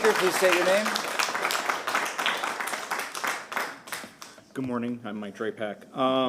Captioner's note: applause